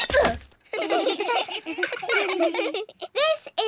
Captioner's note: all giggle